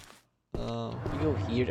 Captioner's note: Formula 1 car noise